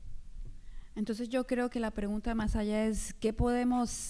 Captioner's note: speaking spanish